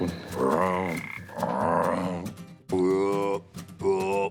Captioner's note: Phil imitating frogs